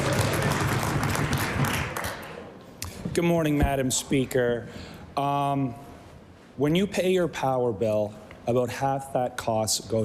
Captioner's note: cheering/Applause